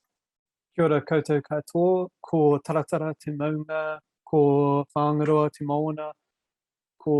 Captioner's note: speaking foreign language